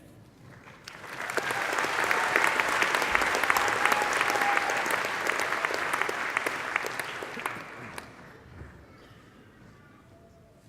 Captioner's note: applause